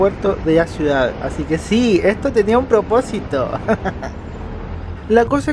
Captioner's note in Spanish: risas